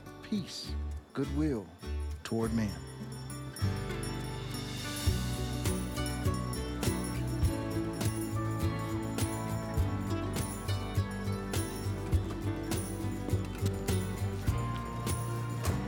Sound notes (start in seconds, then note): 3.7 ringing bell